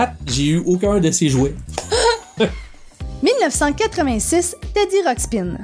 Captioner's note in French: rires